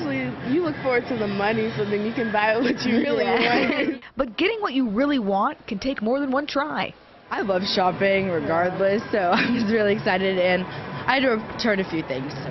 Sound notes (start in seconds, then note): 7.8 laughter